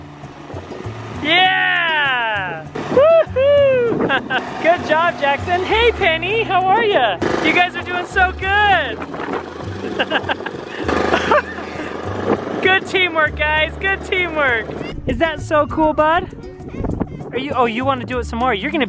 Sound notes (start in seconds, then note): 9.8 laughs